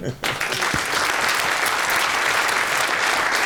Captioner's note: applause